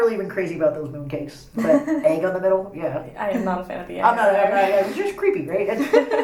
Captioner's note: laughs